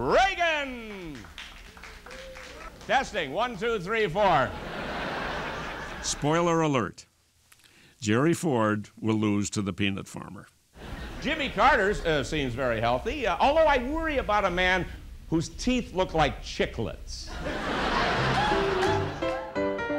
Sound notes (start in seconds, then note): 3.8 clapping; 7.7 laughter